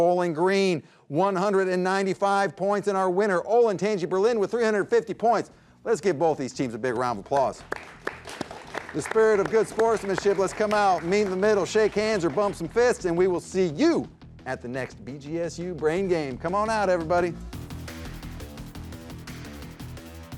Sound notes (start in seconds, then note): 7.5 audience applauds; 17.9 upbeat music